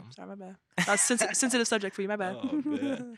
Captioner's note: chuckles